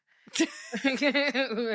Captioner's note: laughing